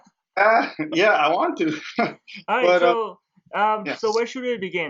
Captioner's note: laughs